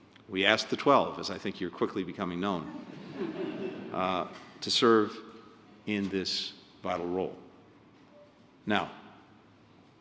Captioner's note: laughter